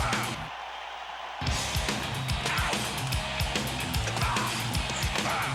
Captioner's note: audience continues cheering